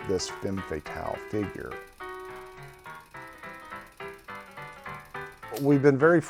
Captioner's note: bright music; projector whirring